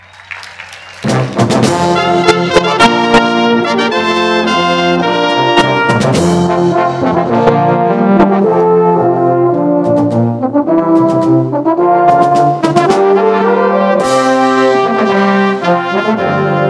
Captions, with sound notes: ENSEMBLE. SO PLEASE ENJOY. [CHEERS AND APPLAUSE]